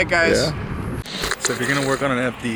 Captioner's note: static